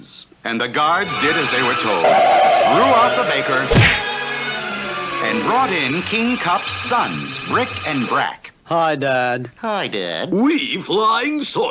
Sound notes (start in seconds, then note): 3.7 smack!